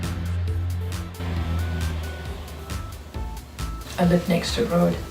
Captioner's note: engine continues to rev; engine revving